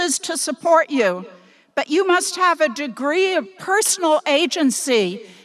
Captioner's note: none